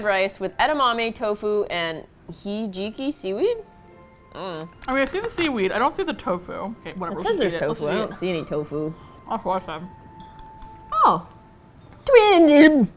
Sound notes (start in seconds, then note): 3.5 hums "I don't know; 9.0 mouth full; 11.7 gags violently